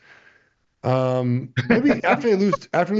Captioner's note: cohost 2 laughs